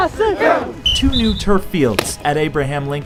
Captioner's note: whistle blows